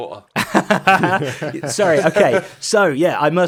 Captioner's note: laughs